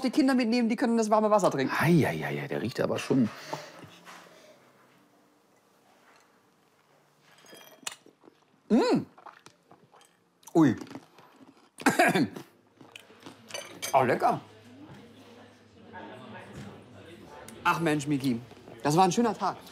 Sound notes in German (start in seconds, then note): 11.8 Er hustet